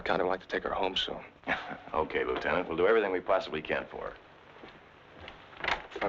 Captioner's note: chuckles